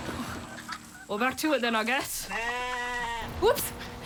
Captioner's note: sheep bleats